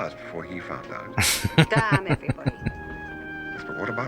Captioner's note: laughing